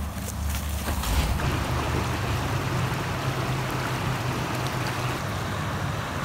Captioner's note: logo whooshing; water babbling